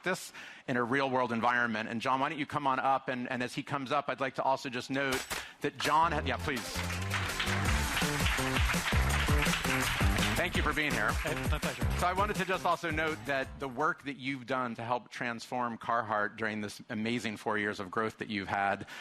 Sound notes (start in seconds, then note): 6.4 audience applause; 6.7 upbeat music